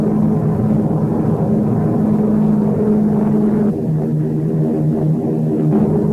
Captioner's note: plane engines roaring continues